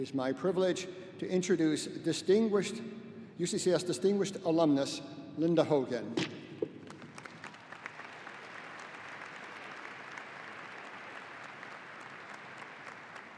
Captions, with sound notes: It is my privilege to introduce distinguished, UCCS Distinguished Alumnus, Linda Hogan. (audience applauding)